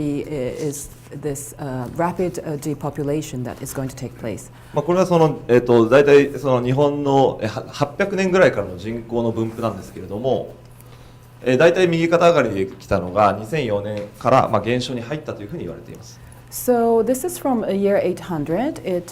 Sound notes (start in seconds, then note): 4.3 speaking foreign language